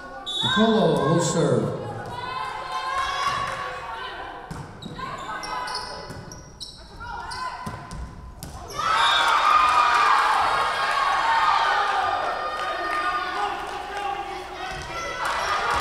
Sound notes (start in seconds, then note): 3.2 whistle blowing; 8.6 Tigers cheering; 9.2 whistle blowing